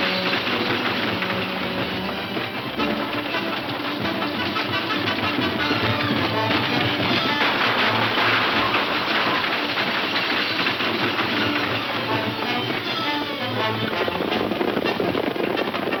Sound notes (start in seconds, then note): 2.2 valiant instrumental music; 7.0 gun shots firing; 11.0 bold instrumental music